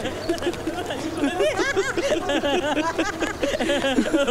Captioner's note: Laughs